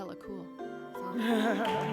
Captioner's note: applause